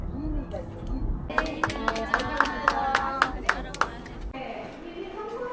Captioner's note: another round of applause for the guide